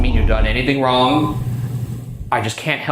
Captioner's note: mysterious voice whispering